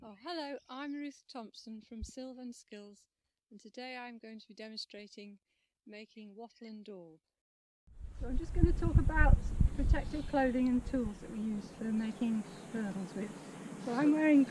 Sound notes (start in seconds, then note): 8.0 wind rustling